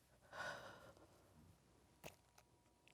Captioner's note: sighs